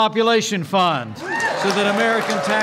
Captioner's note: applause